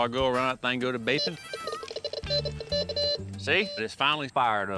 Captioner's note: beeps